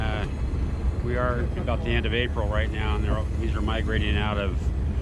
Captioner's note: boat engine idling